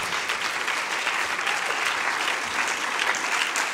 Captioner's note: applause